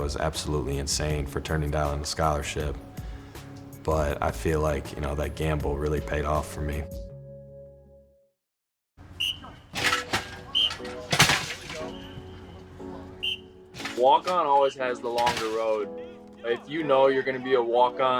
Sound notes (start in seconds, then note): 9.1 whistle trills; 9.2 equipment clangs; 9.6 whistle trills